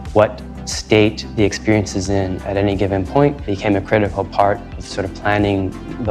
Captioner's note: none